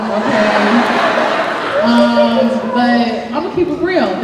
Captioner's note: laughing